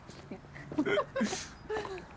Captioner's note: laughter